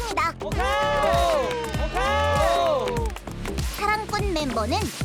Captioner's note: scream~